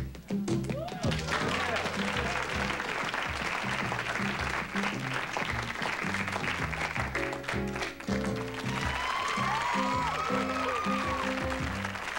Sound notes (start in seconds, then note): 1.2 applause; 7.9 applause and cheers